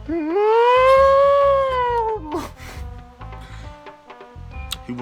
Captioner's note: imitates ghost sounds